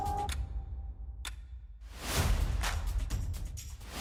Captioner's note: clock ticking